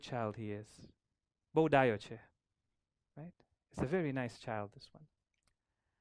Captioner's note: gujarati